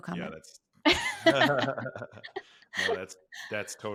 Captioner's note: laughing